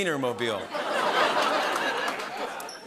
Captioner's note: laughter